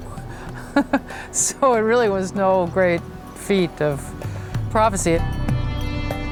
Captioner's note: chuckles